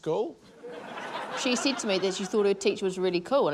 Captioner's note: laughter